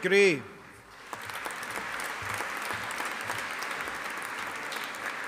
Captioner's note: audience applauding